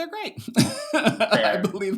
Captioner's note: laughs